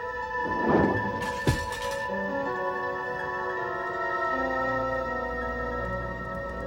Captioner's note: candle holder clatters on floo